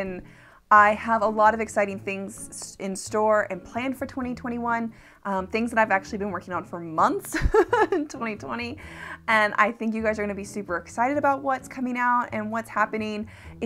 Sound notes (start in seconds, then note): 7.3 laughing